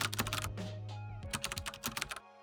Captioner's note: keyboard clicking